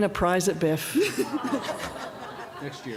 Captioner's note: audience awws